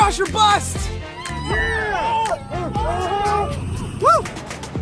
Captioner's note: group cheering